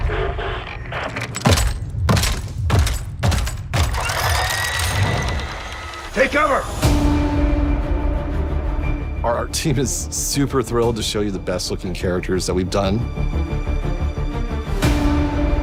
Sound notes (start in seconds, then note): 0.0 heavy footsteps; 4.2 gun whirring